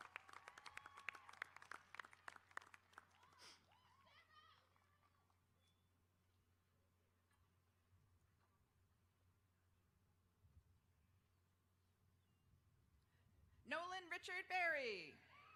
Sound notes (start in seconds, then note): 2.7 applause